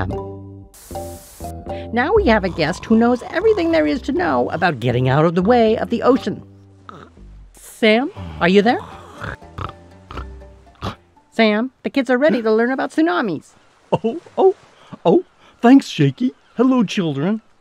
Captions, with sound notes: Now we have a guest who knows everything there is to know about getting out of the way of the ocean. Sam, are you there? (Sam snores) Sam, the kids are ready to learn about tsunamis. - Oh, oh, oh. Thanks Shakey. Hello, children.